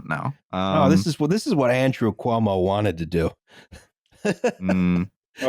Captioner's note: laughs